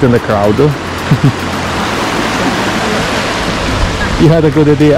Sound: water flowing

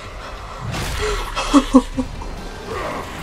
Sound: laughs incredulously

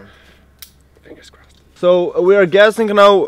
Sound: whispers

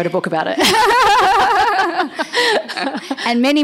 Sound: laughter

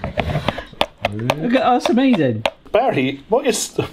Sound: laughs; swing action clicking

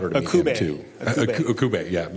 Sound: laughing

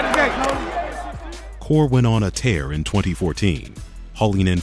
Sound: voiceover

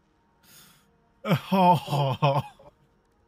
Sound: laughs more

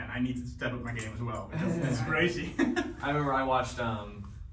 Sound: laughing

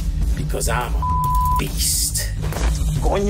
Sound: beep

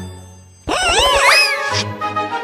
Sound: screams

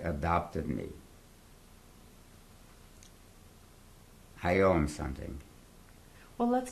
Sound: pauses for 3 seconds

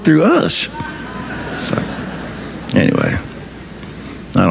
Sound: audience laughing

